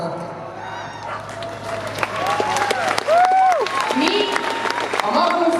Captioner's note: applause